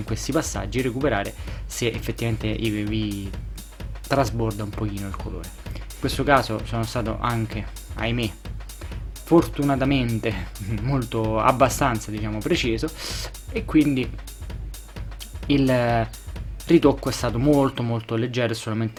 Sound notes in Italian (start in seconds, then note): 13.9 sbuffare